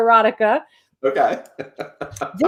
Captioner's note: laughs